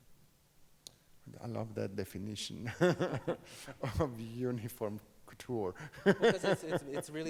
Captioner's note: laughs